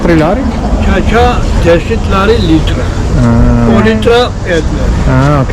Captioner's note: wine seller speaking Georgian